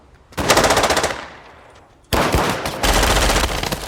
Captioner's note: guns firing